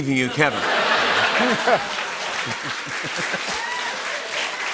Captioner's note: laughter; cheers and applause